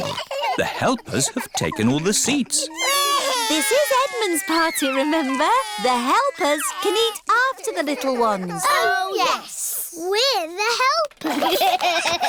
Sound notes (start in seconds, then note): 3.1 babies crying